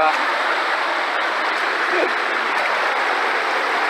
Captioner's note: laughing